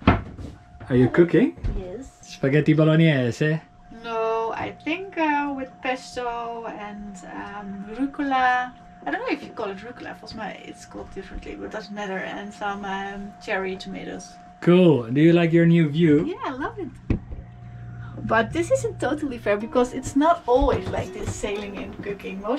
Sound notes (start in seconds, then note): 3.2 foreign language